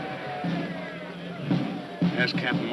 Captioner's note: men chattering